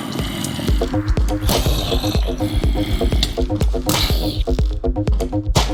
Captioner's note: growling